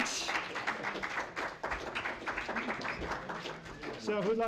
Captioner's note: applause